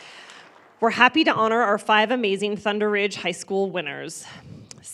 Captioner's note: applause